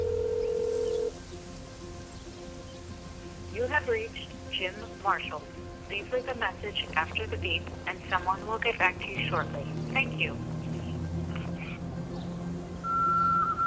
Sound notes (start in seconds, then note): 0.0 dial tone; 4.1 voicemail